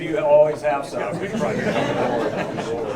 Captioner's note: laughter